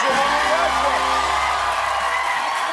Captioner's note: applause